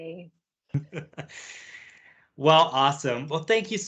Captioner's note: laughs